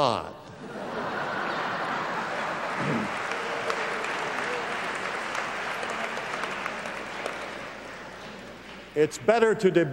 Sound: laugh

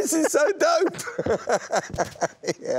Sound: laughter

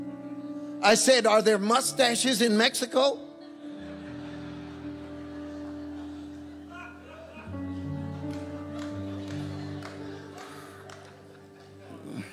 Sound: congregation chuckling

